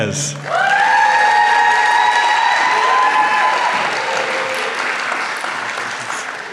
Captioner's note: applause